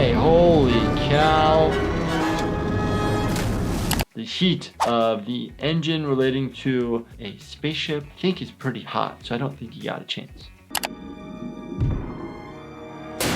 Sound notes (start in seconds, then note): 3.3 water splashing; 10.7 mouse clicking